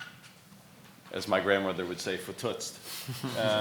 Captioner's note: murmurs